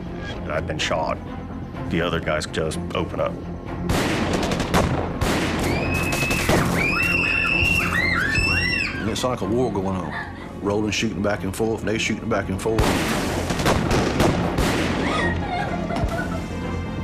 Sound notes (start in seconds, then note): 5.6 girls screaming; 15.0 sobs